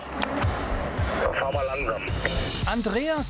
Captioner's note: radio